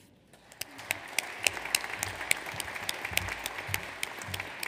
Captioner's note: audience applauds